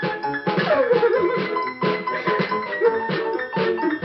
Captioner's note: sobbing